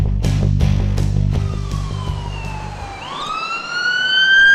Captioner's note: siren